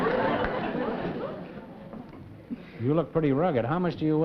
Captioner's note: laughter